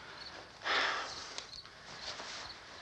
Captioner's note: sighs